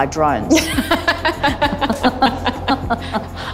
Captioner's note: laughs